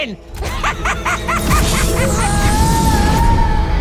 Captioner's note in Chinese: 邪惡的笑聲